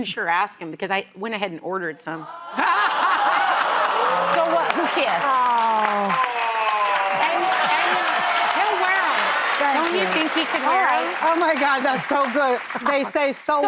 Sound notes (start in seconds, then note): 2.3 laughter; 6.4 applause